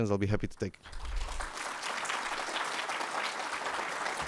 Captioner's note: applause